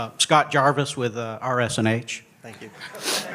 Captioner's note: laughter